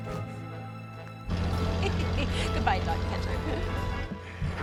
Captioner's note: laughs